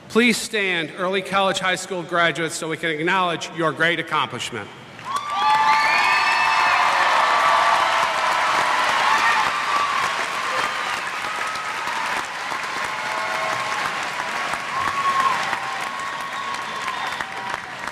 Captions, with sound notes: Please stand early college high school graduates, so we can acknowledge your great accomplishment. [ Cheers ]